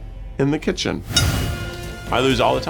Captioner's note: air whooshing